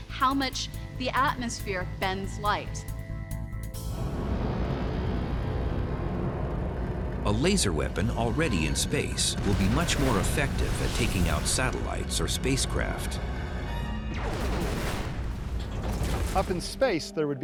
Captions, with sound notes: the atmosphere bends light. [suspenseful music] A laser weapon already in space will be much more effective at taking out satellites or spacecraft. [space fight sound] Up in space, there would be no atmosphere